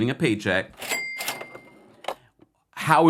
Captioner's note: cash register dings